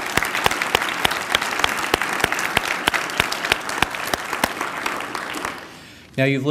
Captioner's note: applause